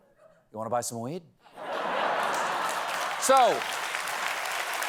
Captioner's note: applause